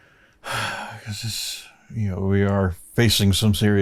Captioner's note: sighs